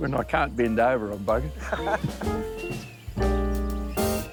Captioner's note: both laugh